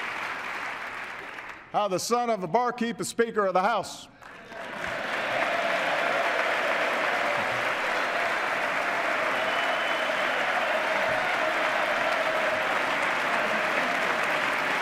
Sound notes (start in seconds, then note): 8.4 cheers, applause